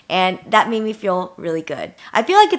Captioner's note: none